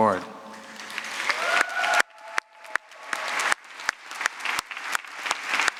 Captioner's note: applause